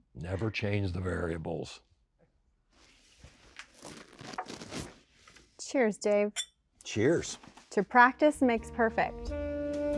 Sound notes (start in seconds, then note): 6.4 glasses clicking; 8.4 jazz music